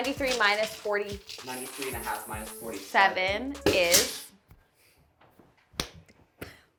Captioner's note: clapping